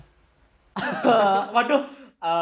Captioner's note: laughter